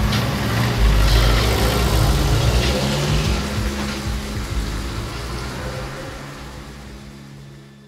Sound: sound of moving vehicle

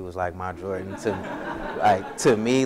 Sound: audience laughs

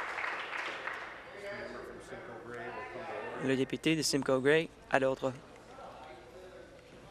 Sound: applause

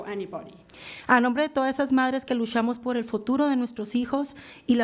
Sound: foreign language

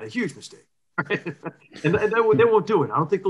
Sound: laughs

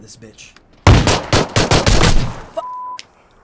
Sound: guns firing

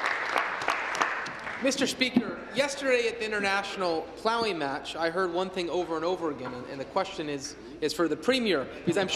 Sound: applause

